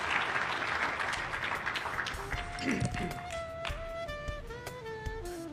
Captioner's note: applause